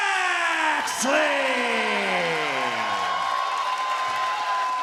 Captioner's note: crowd cheering